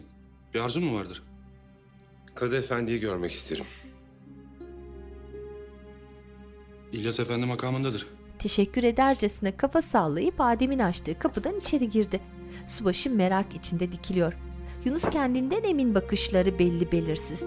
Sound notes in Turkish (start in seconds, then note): 10.9 Kapı açılma sesi; 15.0 Kapı kapanma sesi